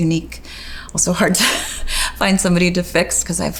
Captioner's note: laughs